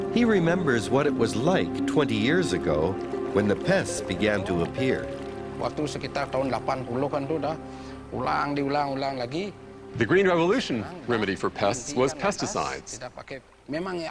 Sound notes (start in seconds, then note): 5.5 speaking in foreign language